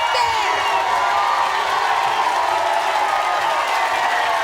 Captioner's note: audience cheers